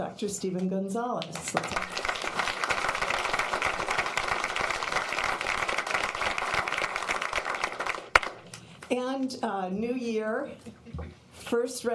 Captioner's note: applause